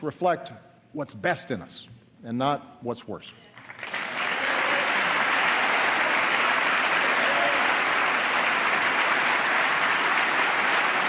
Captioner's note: applause